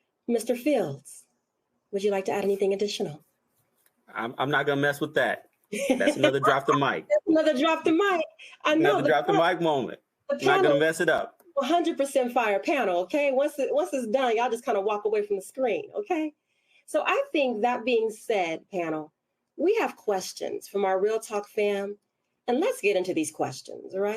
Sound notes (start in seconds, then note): 5.8 laughs